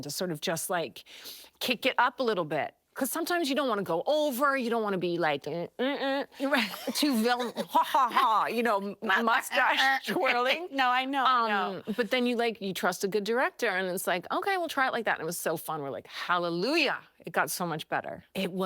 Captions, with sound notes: to sort of just, like, kick it up a little bit. 'Cause sometimes you don't wanna go over, -you don't wanna be like, "mm-mm-mm." -Right. [laughing] Too villain-- "ha-ha-ha," you know, -mustache twirling. -"Ha-ha-ha," No, I know, I know. Um, but then you like-- you trust a good director, and it's like, "Okay, well, try it like that," and it was so fun. We're like, "Hallelujah!" It got so much better.